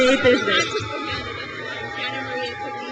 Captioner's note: crowd cheers